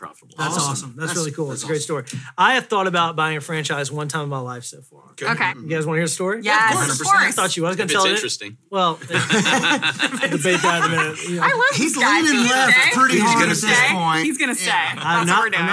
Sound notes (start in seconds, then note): 9.0 hosts laugh